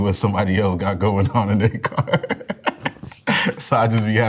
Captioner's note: laughs